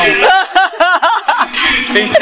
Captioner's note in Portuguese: risos